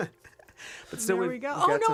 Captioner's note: laughter